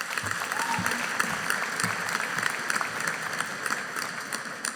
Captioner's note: audience applauding